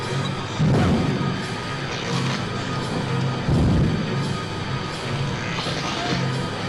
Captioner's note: suspenseful music; stone crashing